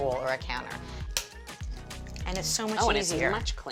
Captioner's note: cracks